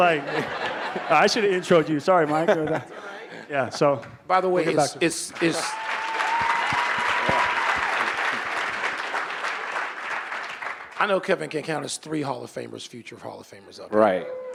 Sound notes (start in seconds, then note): 5.3 audience applauding